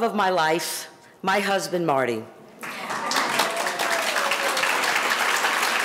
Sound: audience applauding

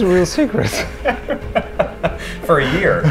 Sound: laughing

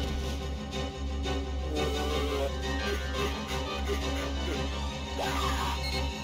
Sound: Web Spinner making strange noises

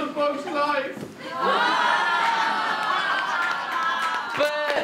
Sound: audience laughter

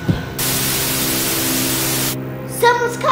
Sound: TV static

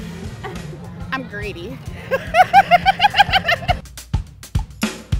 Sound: laughing; upbeat music

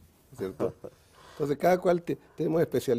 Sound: ríe

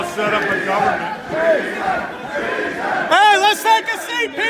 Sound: crowd

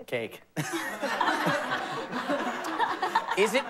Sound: laughter

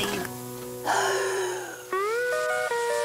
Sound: gasps

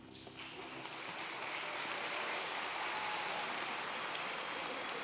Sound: audience applauds

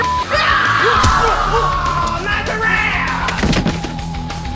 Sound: man screaming

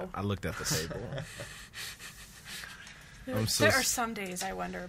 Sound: laughs

